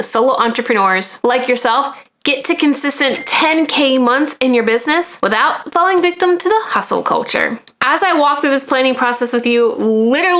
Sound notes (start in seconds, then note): 3.0 cash register chiming